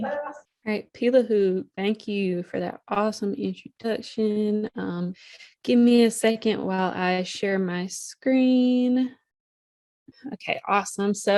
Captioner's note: speaking in Native language